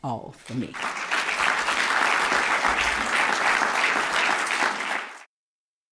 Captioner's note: applause